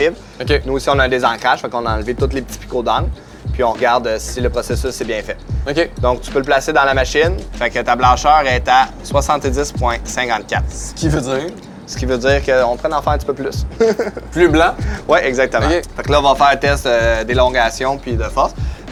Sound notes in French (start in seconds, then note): 13.7 petit rire